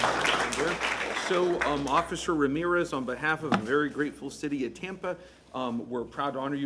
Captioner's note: applause